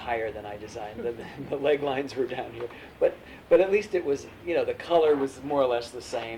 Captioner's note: laughter